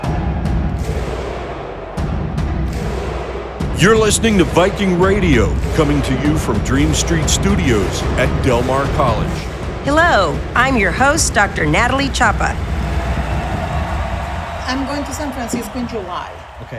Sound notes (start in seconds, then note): 0.2 dramatic music continues; 12.7 crowd cheering; 12.7 dramatic music continues